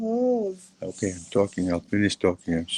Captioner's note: child talking